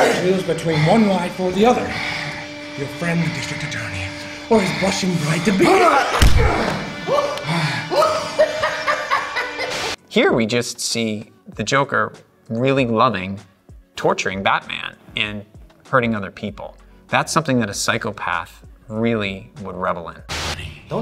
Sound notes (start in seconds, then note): 5.3 Batman grunting; 6.6 Joker laughing